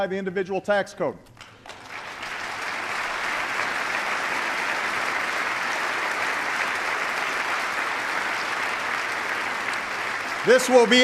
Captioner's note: applause